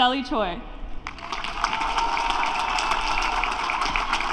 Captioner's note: applause